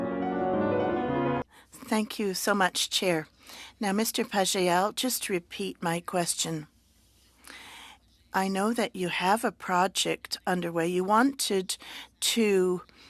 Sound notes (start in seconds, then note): 9.9 speaking French